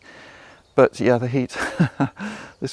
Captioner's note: laughs